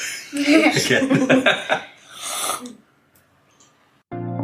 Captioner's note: laughs